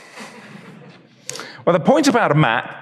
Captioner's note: audience chuckles